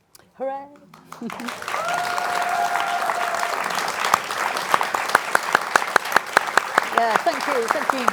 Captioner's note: cheering and applause